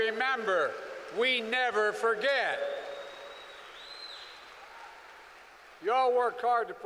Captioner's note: applause